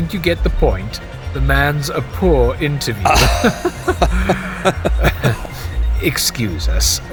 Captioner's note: Yoba and Lybender uncomfortable laughter